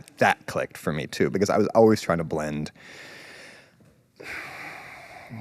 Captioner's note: exhales